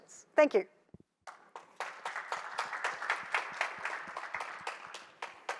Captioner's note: applause